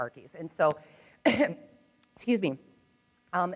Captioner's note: coughs